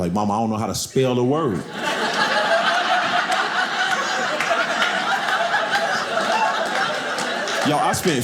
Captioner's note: audience laughing